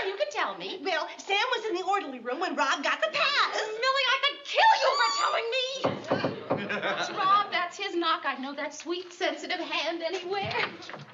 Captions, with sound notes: You can tell me. Well, Sam was in the orderly room when Rob got the pass. Millie, I could kill you for telling me! [KNOCKING] That's Rob, that's his knock, I know that sweet, sensitive hand anywhere.